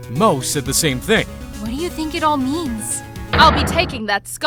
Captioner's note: whispering